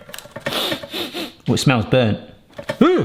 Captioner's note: sniffs